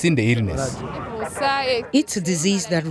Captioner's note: non-english speech